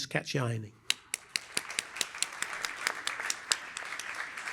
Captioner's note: applause